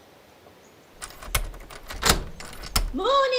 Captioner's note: key clacking